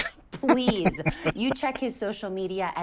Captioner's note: laughing